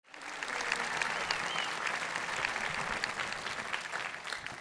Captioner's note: audience clapping